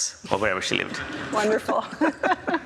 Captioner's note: both laugh